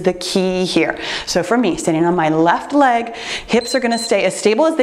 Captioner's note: timer beeps